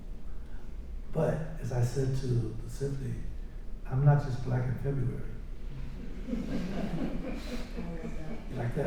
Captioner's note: laughter